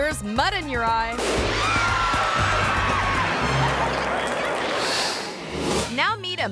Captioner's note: explosion booms; audience screaming